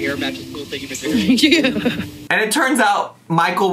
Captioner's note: laughing